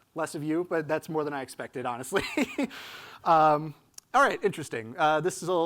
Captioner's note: laughs